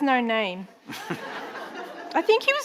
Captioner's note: audience laughing